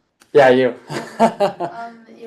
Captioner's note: laughs